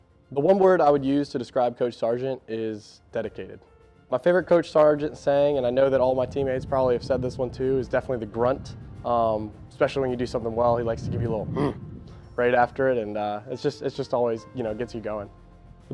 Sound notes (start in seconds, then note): 11.5 grunt